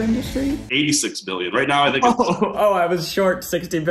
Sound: laughs

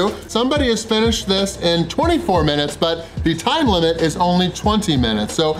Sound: none

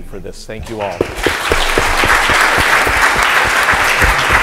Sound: applause

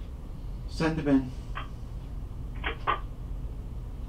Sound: intercom hangs up

